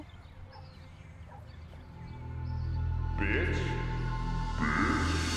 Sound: echoing

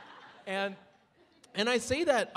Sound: audience laughing

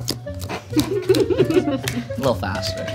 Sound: audience laughs

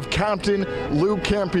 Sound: honking horns

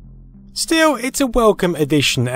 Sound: domestic gaming banter fades out

